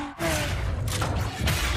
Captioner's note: engine Revving